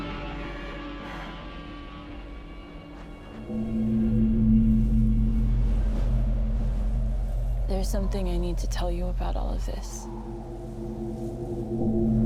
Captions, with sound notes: (wind whistling) There's something I need to tell you about all of this.